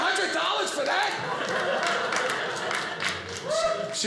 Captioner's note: audience laughing